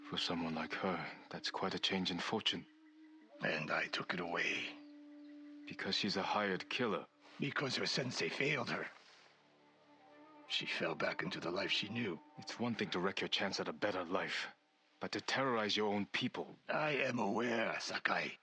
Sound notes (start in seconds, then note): none